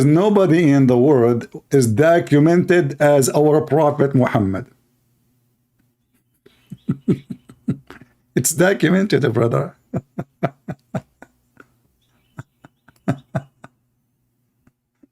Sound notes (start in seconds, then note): 9.7 Ketawa